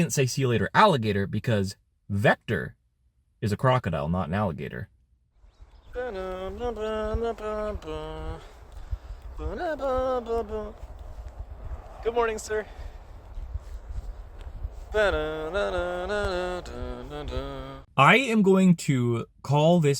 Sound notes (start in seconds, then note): 5.8 hums theme; 14.1 continues humming Sonic music